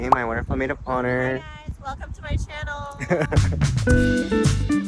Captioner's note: laughing